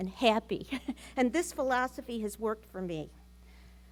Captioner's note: laughs